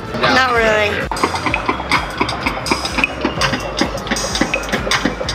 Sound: game spinning

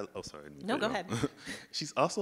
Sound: laughs; chuckles

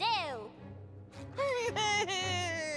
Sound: sobbing

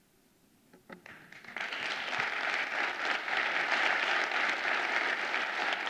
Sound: audience applauding

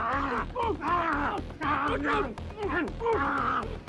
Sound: snarling

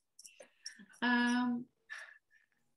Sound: laughter

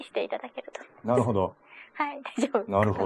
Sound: laughs

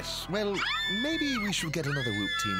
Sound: screaming

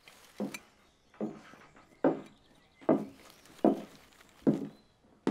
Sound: footsteps approaching

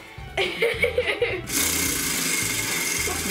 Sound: laughing

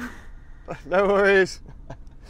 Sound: laugh

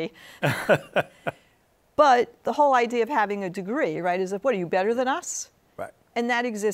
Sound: laughs

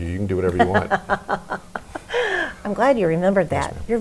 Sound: laughs

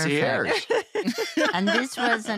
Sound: laughter

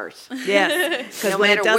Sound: laugh

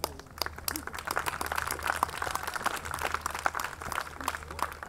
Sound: audience clapping

